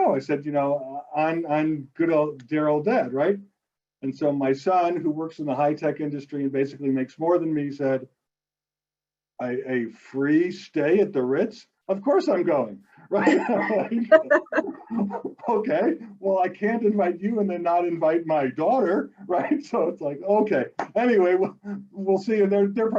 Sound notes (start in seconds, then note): 13.1 both laugh